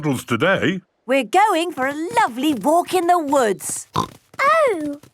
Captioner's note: snorting